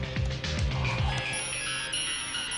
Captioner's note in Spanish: Tecleo; Bip prolongado